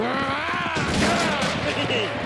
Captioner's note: giggles